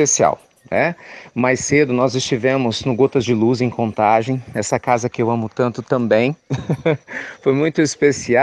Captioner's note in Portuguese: Risos